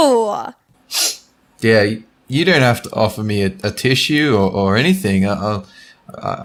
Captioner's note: sniff; sneezes